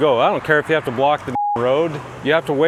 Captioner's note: beep